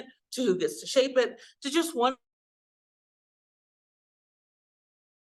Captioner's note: audio cuts out